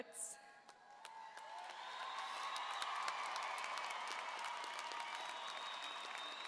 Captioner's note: everyone applauding; audience cheering